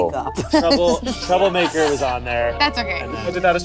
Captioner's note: group laughing